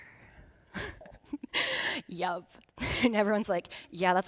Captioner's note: laughing